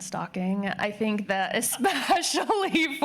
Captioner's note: laughing